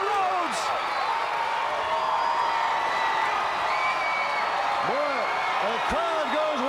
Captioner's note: crowd cheering